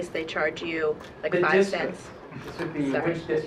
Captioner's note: laughing